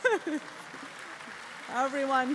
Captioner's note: applause